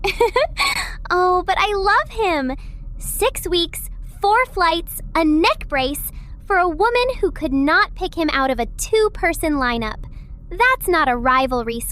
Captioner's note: laughs